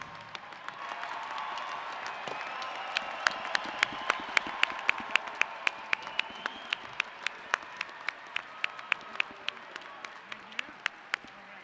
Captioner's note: applause & cheers